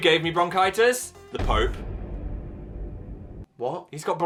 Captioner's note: thud booms